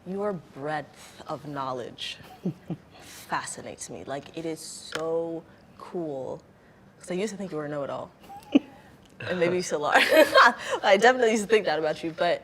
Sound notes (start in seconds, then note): 10.3 laughs